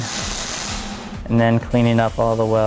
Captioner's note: welding sounds